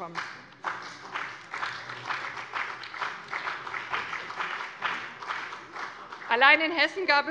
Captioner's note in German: Beifall bei dem BÜNDNIS 90/DIE GRÜNEN und der CDU